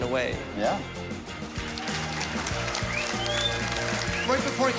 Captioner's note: applause